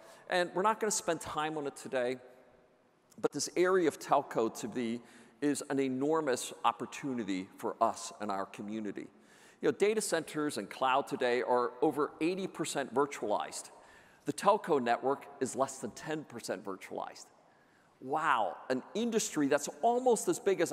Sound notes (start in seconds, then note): none